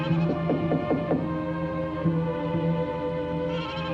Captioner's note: knocking